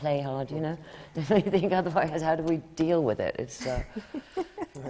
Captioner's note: laughs